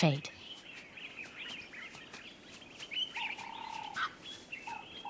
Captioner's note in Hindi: चहचहाहट